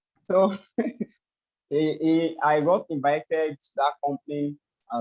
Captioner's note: laughs